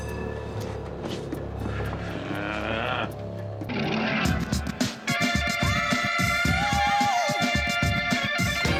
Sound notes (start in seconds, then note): 0.8 trolley bell ringing; 3.2 Nash growls